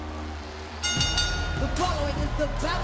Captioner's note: bell rings